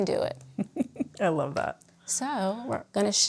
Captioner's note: chuckles